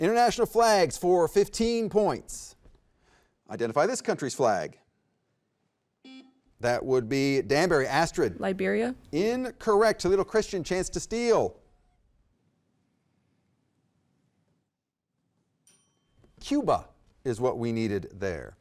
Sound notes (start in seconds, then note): 6.0 button beeping; 15.6 timer dinging